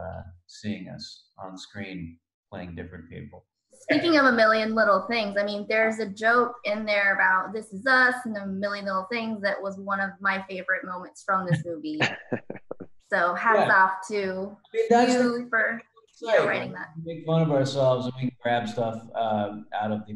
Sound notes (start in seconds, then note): 12.0 chuckle